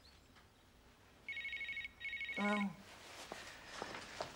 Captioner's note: handy ringing